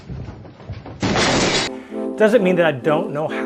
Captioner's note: cabinet thudding